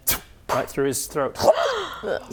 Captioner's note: ptoo; shlunk; gasp